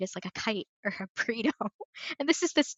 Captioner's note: laughs